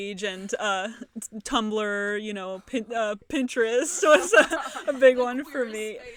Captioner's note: laughter